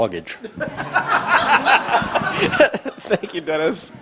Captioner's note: audience laughter